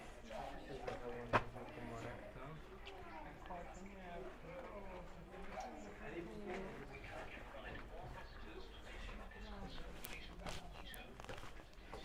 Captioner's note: background chatter